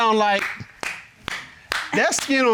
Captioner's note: clapping